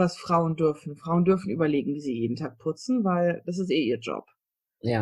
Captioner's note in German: sarkasmus